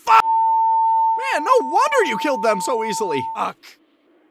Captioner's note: 900Hz sine wave tone